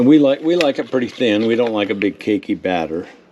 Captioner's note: stirring